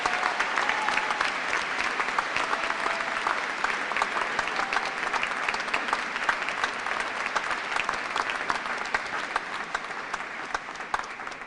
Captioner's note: cheers and applause